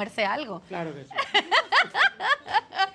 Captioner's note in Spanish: Ríe